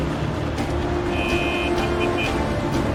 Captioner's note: horn honking